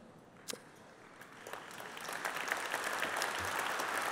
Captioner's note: applause